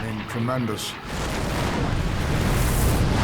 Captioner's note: explosions